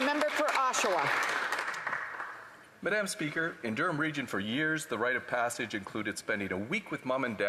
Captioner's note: applause